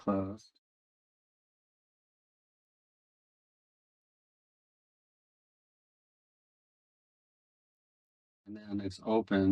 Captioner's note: silence